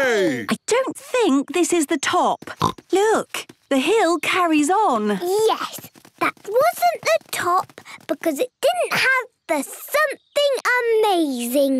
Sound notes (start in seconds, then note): 2.5 snorts